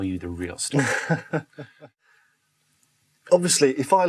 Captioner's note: host laughs